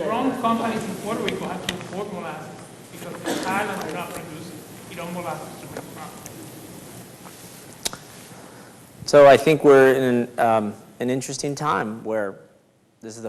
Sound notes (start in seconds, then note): 7.5 speaks faintly